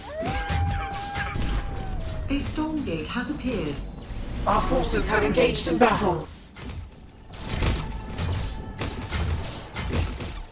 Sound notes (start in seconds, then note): 0.0 wolf howling; 6.6 gun thudding